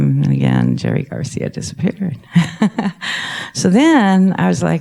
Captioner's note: laughs